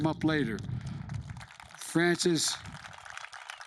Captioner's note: applause